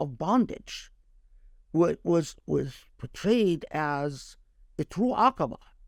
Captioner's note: speaking Arabic